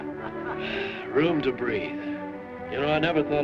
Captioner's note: all laughing; sighs